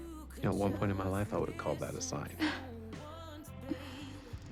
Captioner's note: laughing